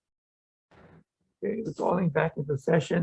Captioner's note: gavel thuds